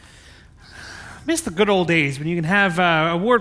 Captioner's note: sighs